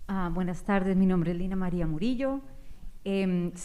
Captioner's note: speaking spanish